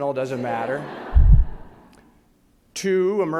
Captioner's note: audience laughs